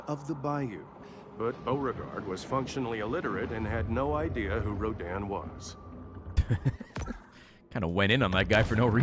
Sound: laughs

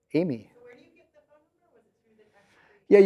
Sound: voiceover

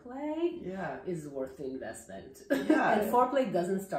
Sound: laughs

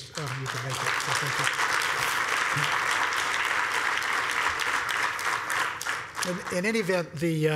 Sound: applause

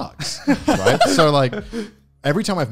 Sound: laughs

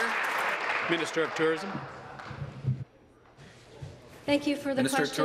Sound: applause

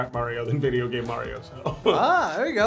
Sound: laughs

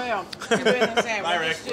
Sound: laughs

